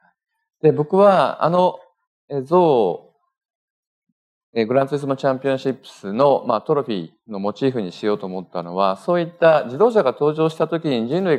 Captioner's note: speaking japanese